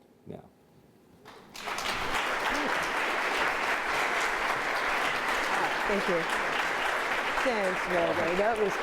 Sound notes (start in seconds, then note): 1.2 audience applauding